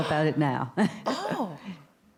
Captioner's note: laughs